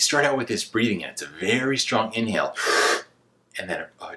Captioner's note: inhales rapidly